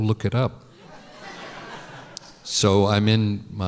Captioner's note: laughter